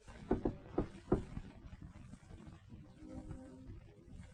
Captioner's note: knocking on door